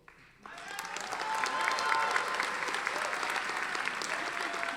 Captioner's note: audience applauding